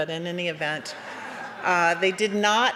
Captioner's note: laughter